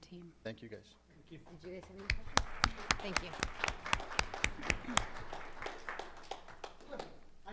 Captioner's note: applause